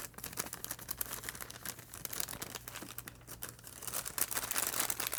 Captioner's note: plastic rustling